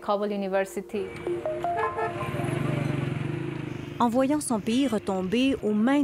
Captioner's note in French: klaxon